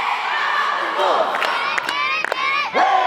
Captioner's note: cheering